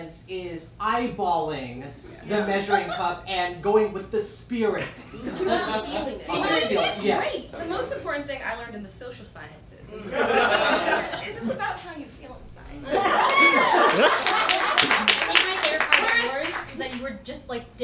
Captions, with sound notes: is eyeballing the measuring cup and going with the spirit. - Feeling it. - The most important thing I learned in the social sciences is it's about how you feel inside. (audience cheers) - I think my favorie part of yours is that you were just like